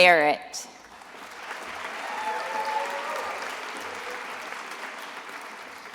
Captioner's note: attendees applauding